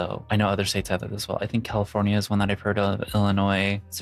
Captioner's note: none